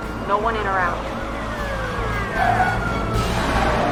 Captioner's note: sirens wailing